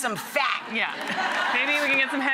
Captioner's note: audience laughs